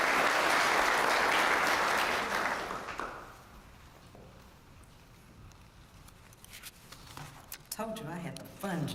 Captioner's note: applause